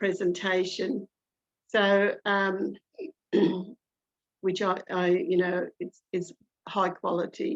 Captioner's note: clears throat